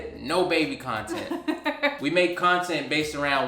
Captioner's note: laughs